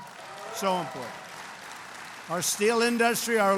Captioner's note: applause